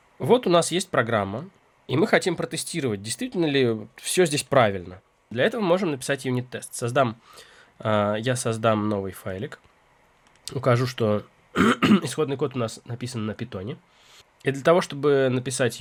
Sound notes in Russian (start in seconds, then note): 11.5 откашливается; 11.5 кашель